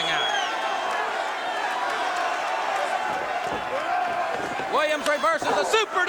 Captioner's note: crowd cheering